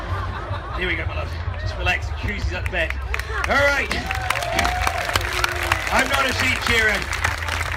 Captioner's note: crowd laughs; crowd applauds